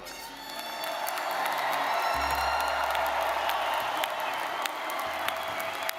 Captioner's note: audience cheering and applauding